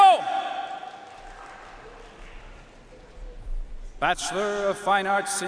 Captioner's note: audience cheering and applauding